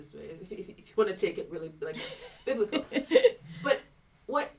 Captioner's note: laughing